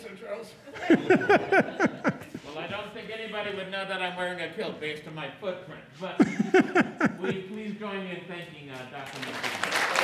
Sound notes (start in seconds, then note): 0.8 both and audience chuckles; 6.2 audience chuckles